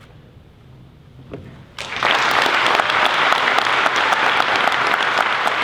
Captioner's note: applause